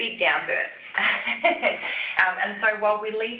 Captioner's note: laughter